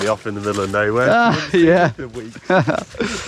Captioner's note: laughs